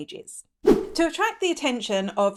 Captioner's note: air whooshing